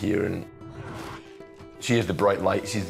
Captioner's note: gasps